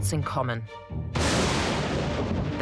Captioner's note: thunder